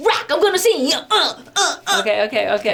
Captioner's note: grunts